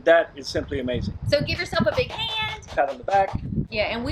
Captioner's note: applauding